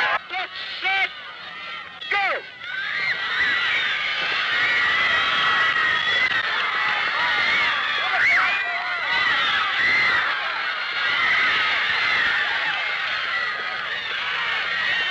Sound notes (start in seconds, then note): 0.2 man speaking through a megaphone; 2.8 crowds cheering